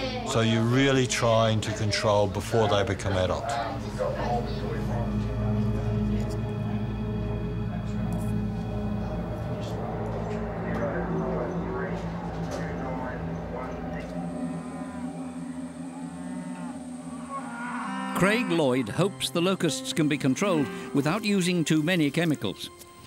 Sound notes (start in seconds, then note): 3.9 indistinct background chatter; 6.4 suspenseful music; 10.7 indistinct chatter; 14.1 cicadas; 14.1 cows mooing